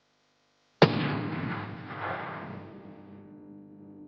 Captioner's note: gun fires